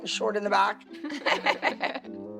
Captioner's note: laughing